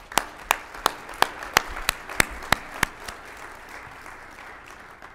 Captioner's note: applause